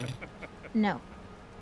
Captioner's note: laughter